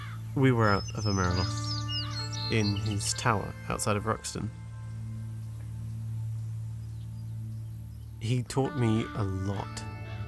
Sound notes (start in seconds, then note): none